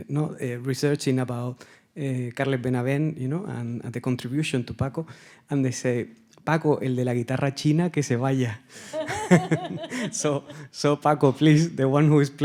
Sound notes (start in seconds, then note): 7.1 speaking in Spanish; 8.9 laughing; 9.0 audience member laughing